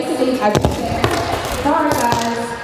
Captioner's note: onstage speaker static